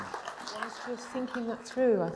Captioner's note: applause